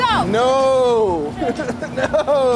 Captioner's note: laughter